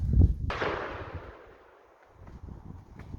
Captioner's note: rifle shot